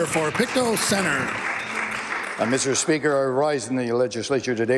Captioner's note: applause